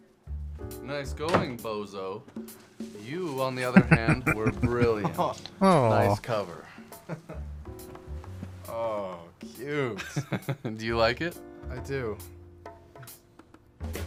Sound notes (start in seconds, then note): 3.6 chuckling